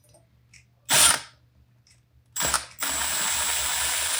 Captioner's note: drill whirring